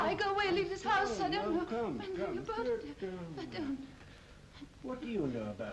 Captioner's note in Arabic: يغمغم